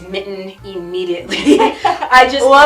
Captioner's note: laughs